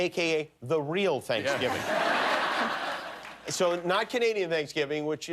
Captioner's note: laughter